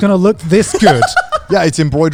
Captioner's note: laughing